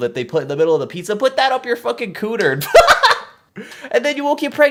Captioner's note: laughs